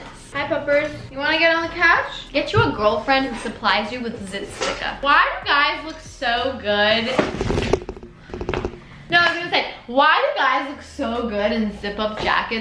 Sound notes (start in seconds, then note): 7.2 camera moving sound